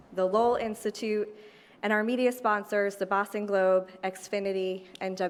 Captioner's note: none